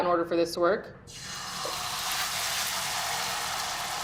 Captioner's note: oil sizzling